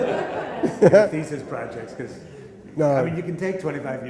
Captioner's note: laughter